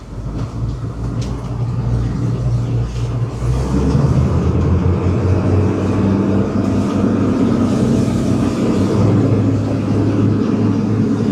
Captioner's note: engine revving